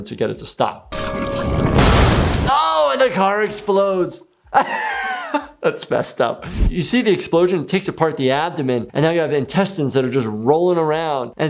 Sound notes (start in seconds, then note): 1.0 explosion booms; 4.5 laughs